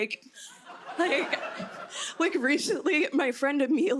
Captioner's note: laughter